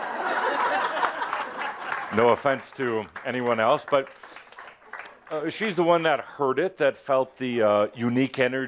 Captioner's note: laughter